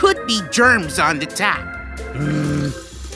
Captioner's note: groans